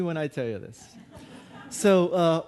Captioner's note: audience laughing